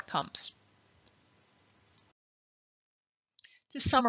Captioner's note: silence